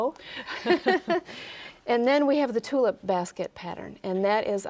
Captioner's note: both laugh